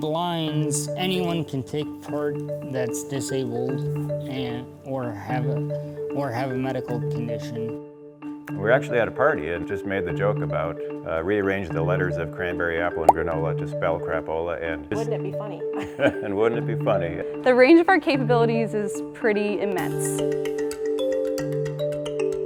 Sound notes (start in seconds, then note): 15.8 laughs